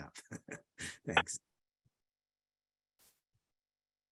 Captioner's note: laughs